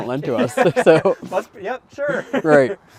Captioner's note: both laughing